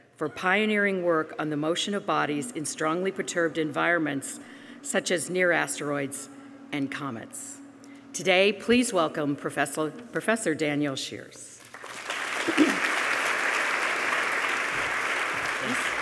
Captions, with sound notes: "For pioneering work on the motion of bodies "in strongly perturbed environments "such as near asteroids and comets." Today, please welcome, Professor Daniel Scheeres. (applause)